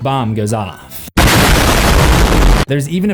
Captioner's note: explosion meme